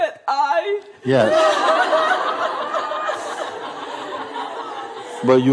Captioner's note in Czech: smích